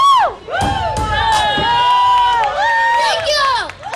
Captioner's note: crowd cheering